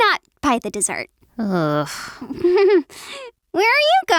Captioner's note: giggles